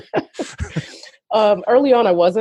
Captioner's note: laughs